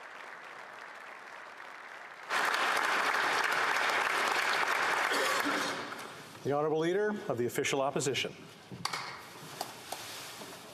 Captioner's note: applause